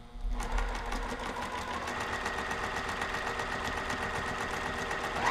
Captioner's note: sewing machine roaring